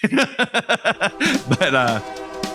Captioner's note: train horn